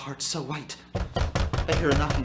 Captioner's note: knocking within